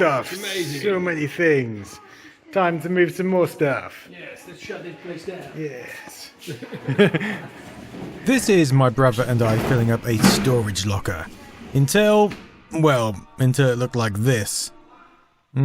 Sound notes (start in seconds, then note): 6.4 laughter